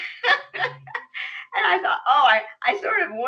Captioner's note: laughs